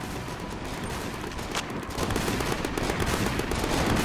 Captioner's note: guns firing